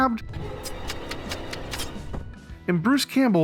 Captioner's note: knife slashing